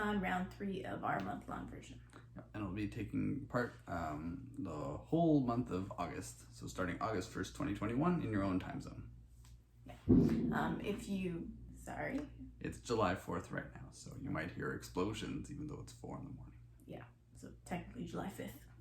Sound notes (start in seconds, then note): 10.0 explosion sound in the background